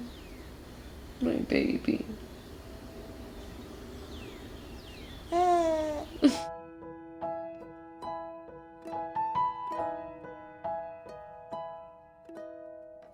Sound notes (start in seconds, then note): 5.2 cooing; 7.0 soft Music playing